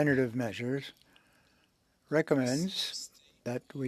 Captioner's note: speaking French